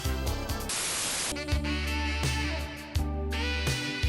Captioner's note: static hissing